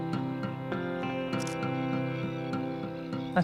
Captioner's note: camera clicks